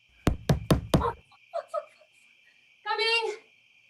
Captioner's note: more knocking